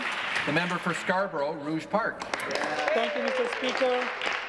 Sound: applause

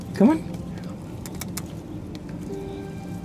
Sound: tongue clicks

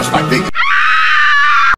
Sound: yoshicop screaming like a girl

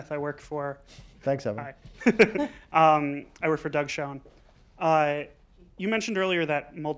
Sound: laughter

